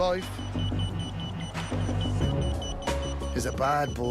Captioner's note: beeping